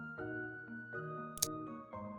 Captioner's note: click sound